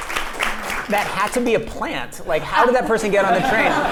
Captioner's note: applause